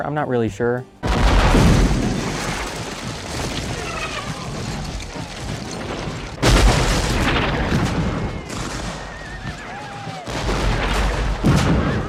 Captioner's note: cannon fire and battle noise